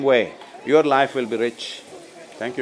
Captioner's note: cheering/Applause